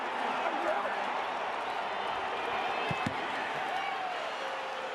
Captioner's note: cheering